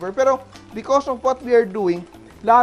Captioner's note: sizzle